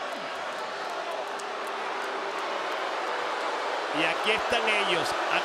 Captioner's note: applause